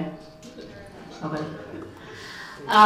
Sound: audience chatters

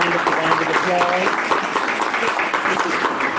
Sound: applause

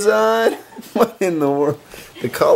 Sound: laughs

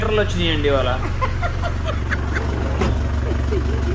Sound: laughing

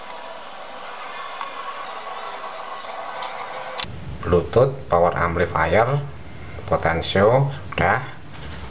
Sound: clap

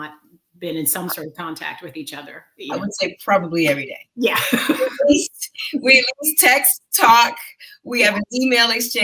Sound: laughter

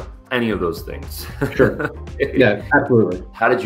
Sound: laughs

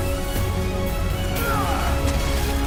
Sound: bane grunts

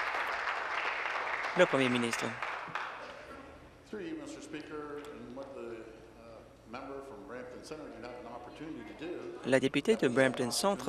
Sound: applause

